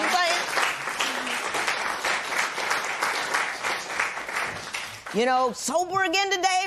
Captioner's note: applause